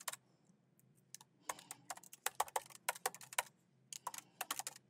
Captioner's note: keyboard clacking